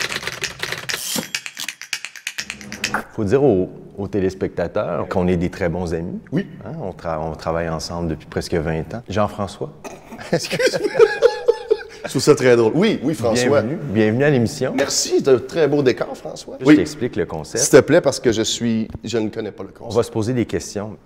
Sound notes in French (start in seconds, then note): 9.8 rires